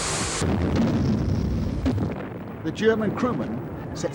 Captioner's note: water leaking; explosion